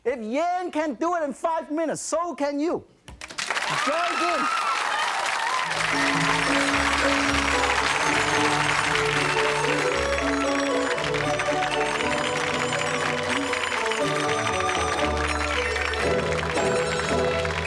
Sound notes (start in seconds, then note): 3.3 audience claps and cheers; 8.7 joyful music